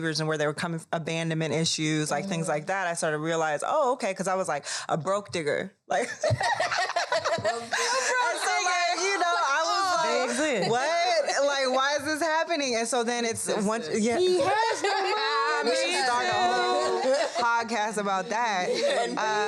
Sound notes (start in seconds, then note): 6.3 all laugh; 13.9 all continue laughing